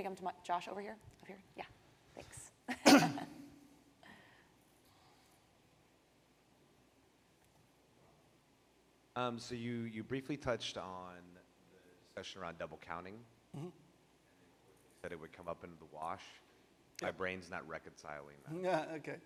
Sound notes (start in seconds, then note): 2.7 chuckles; 2.8 clears throat